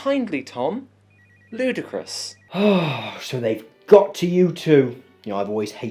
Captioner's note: sighs